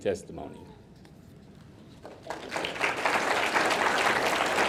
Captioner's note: audience clapping